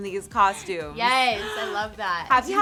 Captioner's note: gasps